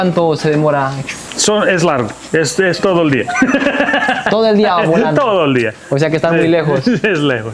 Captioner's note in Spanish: risas